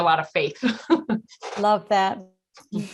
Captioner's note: chuckles